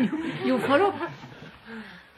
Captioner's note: laughter